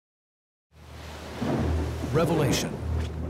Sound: thunder

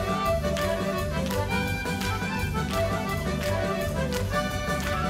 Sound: dancers clapping rhythmically

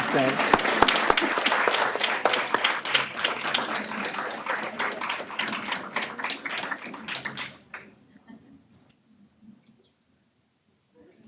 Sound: applause

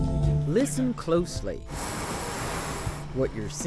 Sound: can hissing

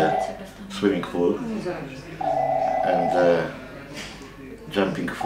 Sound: phone ringing drowns out dialog

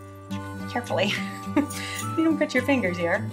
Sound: chuckles

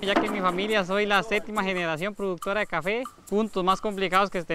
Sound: speaking Spanish

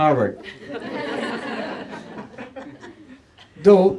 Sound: laughter

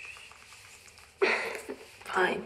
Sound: laughs

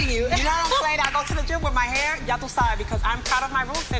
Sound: foreign language

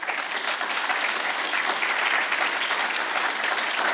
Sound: audience applauds

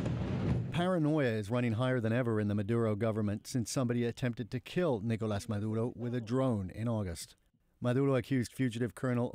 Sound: speaking Alternate Language

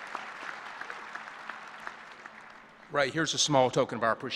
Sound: applause

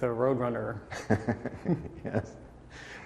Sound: laughing

